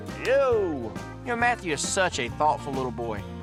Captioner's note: high-five clap